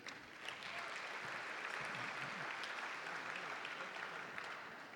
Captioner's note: audience applauding